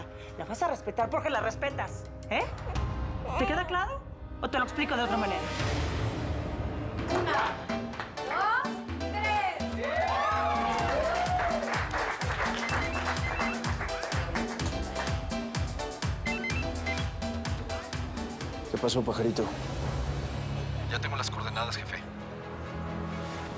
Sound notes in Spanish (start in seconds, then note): 9.1 gritos y exclamaciones; 12.4 suena el celular